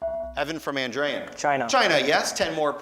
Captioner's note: beeping